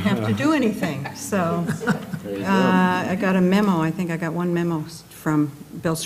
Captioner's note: laugh